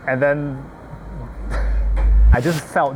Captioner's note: chuckles